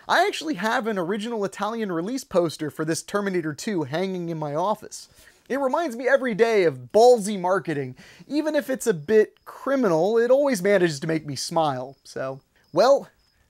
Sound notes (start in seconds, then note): none